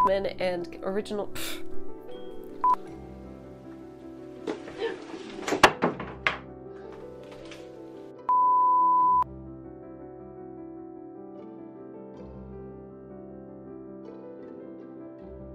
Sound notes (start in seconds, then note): 4.4 gasp - crash